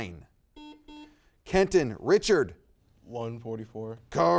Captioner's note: buzzer beeps